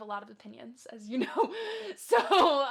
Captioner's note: laughs